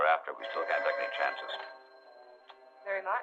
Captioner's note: phone ringing